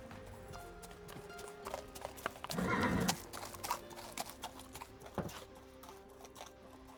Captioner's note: horse drawn cart passes